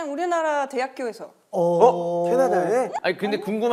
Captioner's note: ohhh